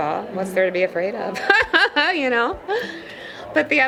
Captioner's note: laughs